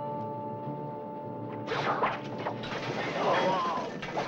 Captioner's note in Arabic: سهام تنطلق; يئن الجندي